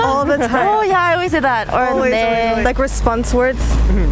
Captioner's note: speaks Korean